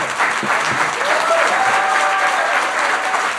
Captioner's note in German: Applaus und Jubel